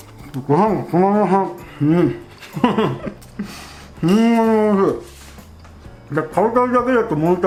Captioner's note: haha